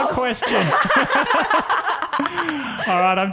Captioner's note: laughing